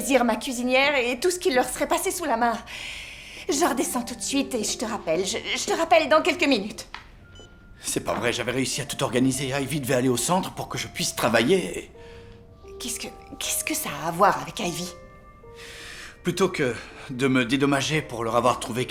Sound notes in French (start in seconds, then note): 7.2 le téléphone émet un bip